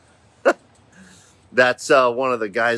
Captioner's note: chuckles